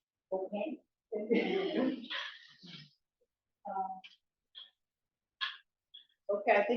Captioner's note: laughs